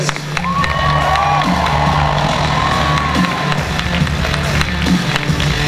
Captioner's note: audience cheering and applause